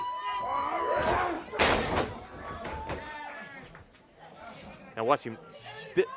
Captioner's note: crowd chatter